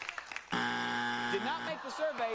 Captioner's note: buzzer